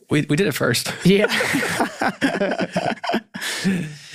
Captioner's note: all laughing